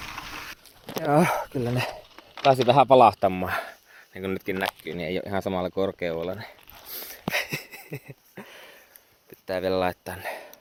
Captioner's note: laughter